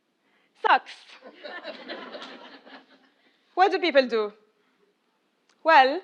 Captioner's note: laugh